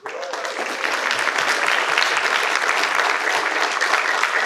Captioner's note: participants applaud